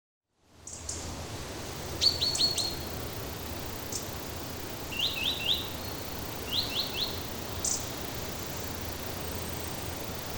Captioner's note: forest sounds